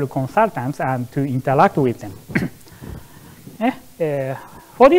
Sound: coughs

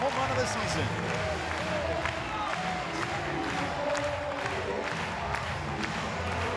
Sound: crowd cheering and clapping

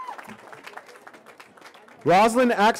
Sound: cheering

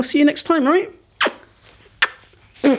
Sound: kissing

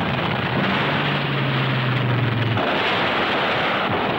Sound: bombs booming

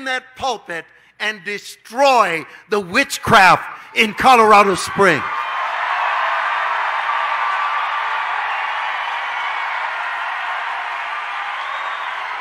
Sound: audience cheering

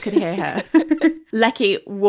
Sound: laughing

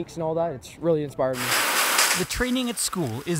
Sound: water from hose

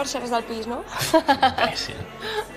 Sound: huffs

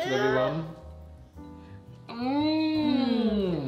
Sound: cooing

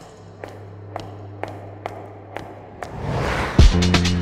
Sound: echoing footsteps

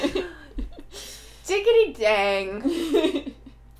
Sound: laughter

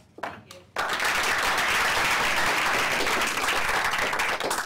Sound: applause

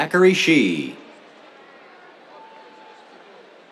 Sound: cheers

